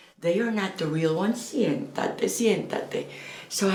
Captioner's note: Spanish